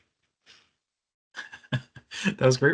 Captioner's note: laughing